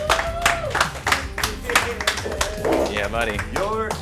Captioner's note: clapping